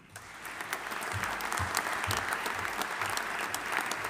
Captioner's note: audience applauding